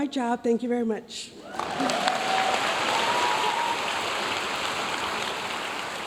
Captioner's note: audience cheering and applauding